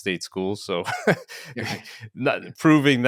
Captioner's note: both laugh